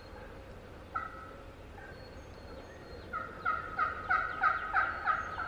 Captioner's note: turkey call yelps